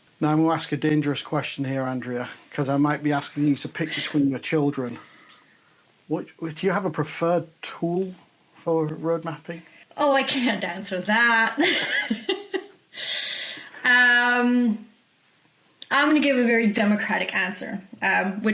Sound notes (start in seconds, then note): 11.6 laughs